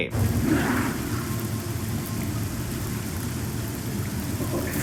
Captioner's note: fire crackling